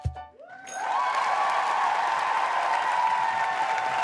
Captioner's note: applause